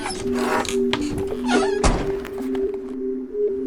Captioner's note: van door opening & shutting